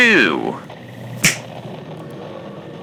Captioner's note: snaps fx